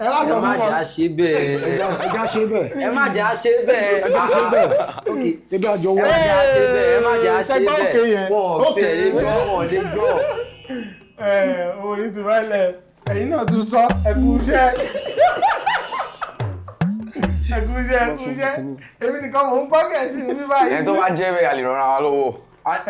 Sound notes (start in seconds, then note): 9.1 buzzer sounds; 15.0 buzzer sounds; 16.0 laughs